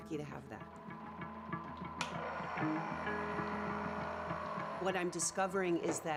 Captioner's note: machine humming